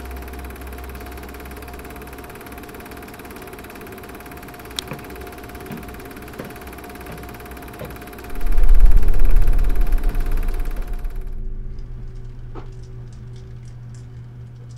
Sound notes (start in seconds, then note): 4.7 light switch flicks; 8.2 ominous music